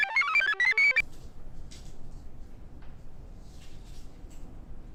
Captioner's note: computer chirps; notes rustle